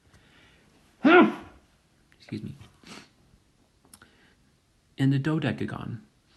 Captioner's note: sneezes